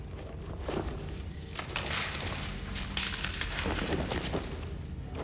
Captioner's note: paper rustling